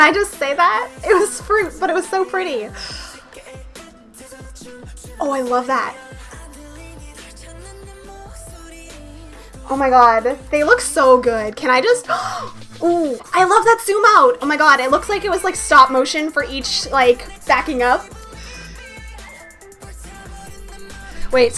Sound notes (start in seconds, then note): 12.0 gasp